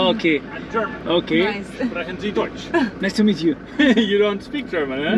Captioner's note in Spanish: Dice algo en alemán